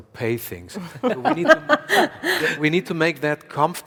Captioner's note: panel laughs